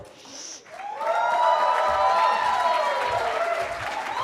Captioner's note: cheering